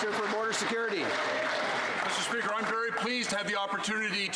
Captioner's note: some Applause